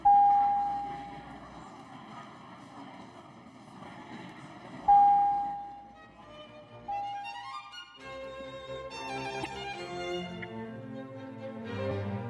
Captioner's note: some Applause